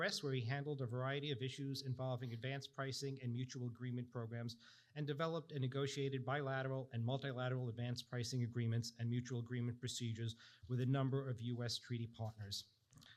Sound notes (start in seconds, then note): none